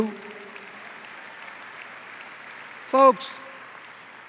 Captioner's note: applause